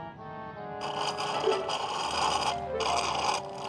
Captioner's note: slurping